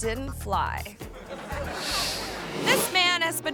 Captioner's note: audience laughing